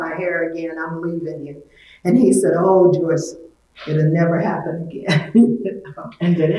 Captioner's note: laughs